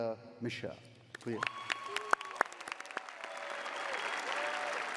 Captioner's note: cheering